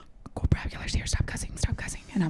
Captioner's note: whispering